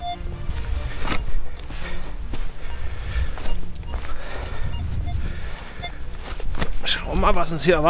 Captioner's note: squeaks